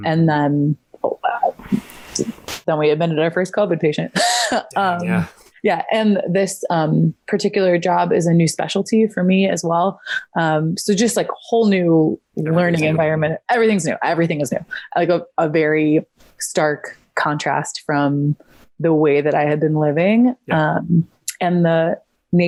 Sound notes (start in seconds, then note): 4.2 chuckles